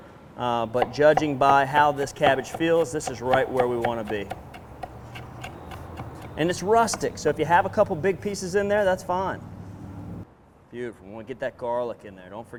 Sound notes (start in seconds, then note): 5.3 chopping